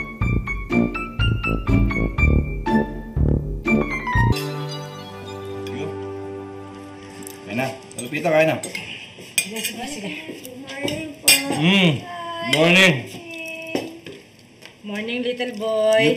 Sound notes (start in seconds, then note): none